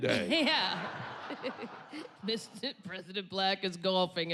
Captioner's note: chuckles